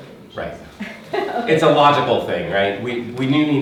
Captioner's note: laughing